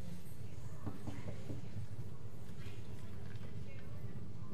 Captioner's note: knocks on door